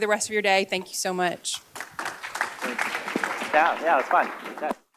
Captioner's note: applause